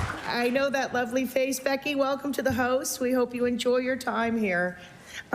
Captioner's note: applause